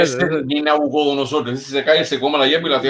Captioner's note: laughs